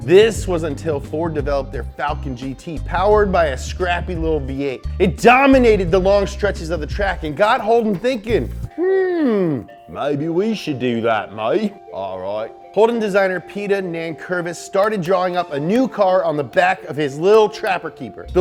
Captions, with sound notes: This was until Ford developed their Falcon GT powered by a scrappy little V8. It dominated the long stretches of the track and got Holden thinking, (Australian accent) "hmm, maybe we should do that mate." "alright." Holden designer Peter Nankervis started drawing up a new car on the back of his little trapper keeper.